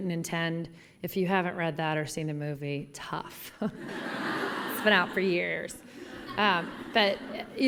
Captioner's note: laughter